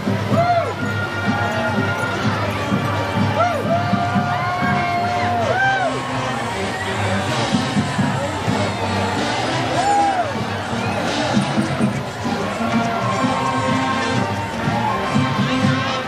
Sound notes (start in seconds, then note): 3.0 cheering